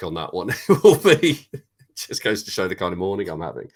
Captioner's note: laughs